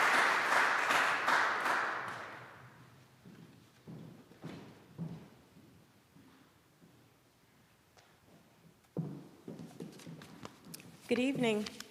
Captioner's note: applause